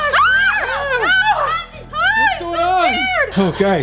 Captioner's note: screaming